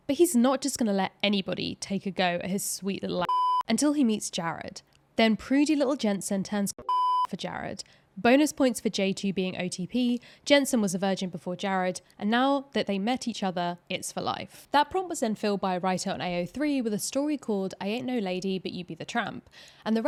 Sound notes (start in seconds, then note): 3.2 beeps; 6.8 beeps